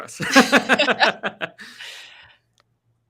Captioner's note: laughing